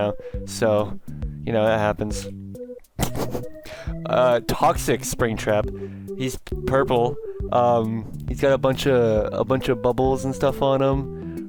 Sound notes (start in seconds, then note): 3.0 laughing